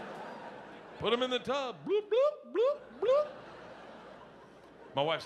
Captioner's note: audience laughing; mimics air bubbling in water